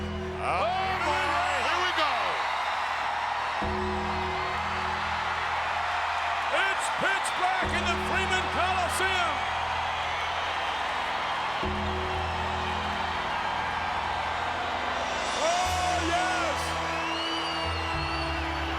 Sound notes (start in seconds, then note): 0.0 ominous music; 2.6 audience cheers